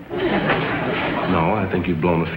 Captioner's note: audience laughs